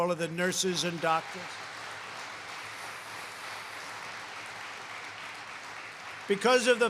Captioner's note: applause